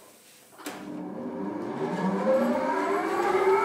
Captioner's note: the machine starts